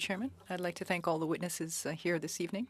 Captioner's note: speaking French